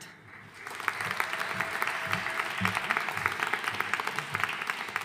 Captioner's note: audience applauding